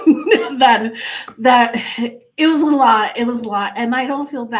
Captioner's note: laughs